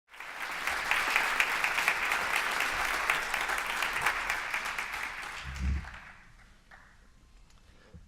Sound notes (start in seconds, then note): 0.1 audience applause